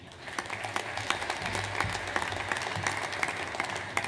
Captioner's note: audience applauds